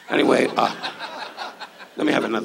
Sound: audience laughs

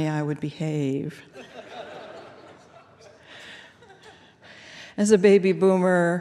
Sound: laughter

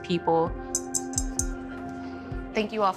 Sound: glasses clinking

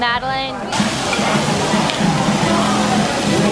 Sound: sizzling

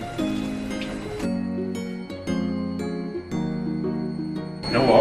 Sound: the sound of the washing machine running behind it🥺🙏

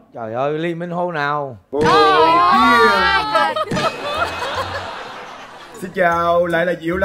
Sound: laughing

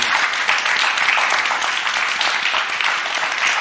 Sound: applause; cheers; applause

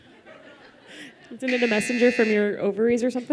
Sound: buzzer

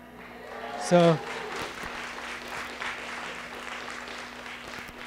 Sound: audience clapping

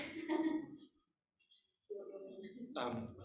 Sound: laughing

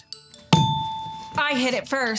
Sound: buzzer Ding

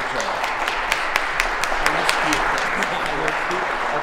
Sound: applause

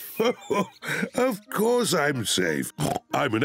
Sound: laughs; oinks

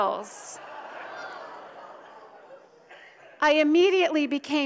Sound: audience laughs

